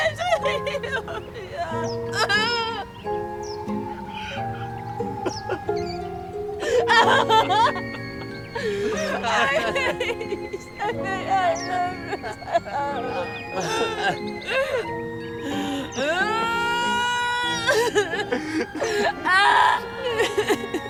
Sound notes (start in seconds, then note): 2.7 crying